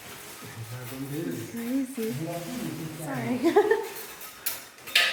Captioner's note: laughing